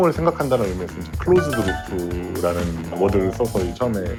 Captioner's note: cloop